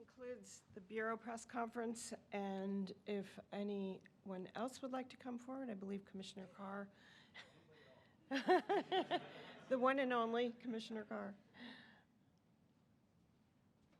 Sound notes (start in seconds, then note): 8.3 laughter